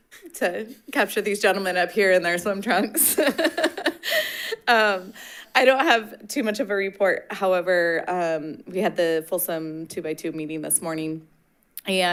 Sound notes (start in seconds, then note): 2.6 laughing